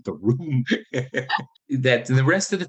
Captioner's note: laughing